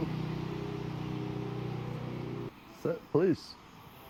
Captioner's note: vehicle engine whirring